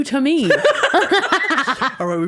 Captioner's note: laughing